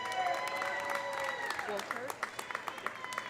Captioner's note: audience applauding; audience cheering